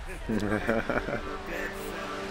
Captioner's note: laughs